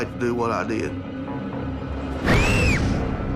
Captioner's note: screams